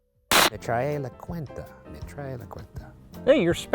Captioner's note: speaking Spanish